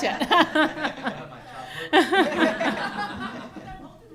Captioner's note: laughter